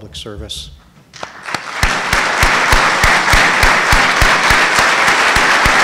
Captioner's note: audience applauding